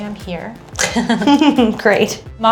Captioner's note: laughing